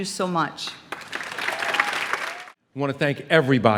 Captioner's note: applause